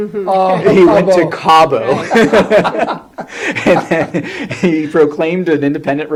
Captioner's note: laughs